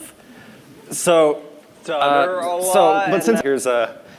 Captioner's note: stutter a lot